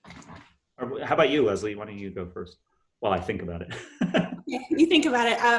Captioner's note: laughs